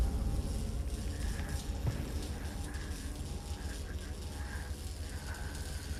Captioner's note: Emma breathing heavily